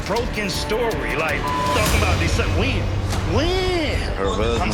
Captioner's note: beep